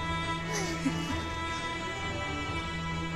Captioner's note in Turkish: Gülme sesleri